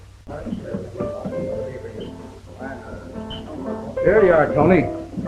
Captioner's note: people chattering; gentle piano music